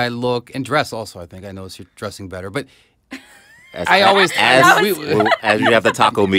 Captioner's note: laughter